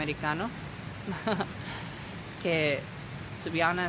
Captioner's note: laughs